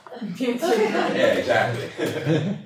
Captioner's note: laughter